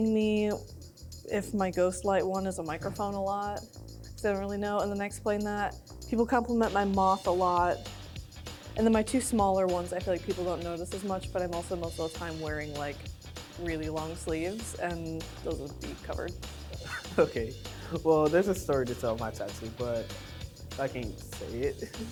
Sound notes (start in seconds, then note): 16.8 laughing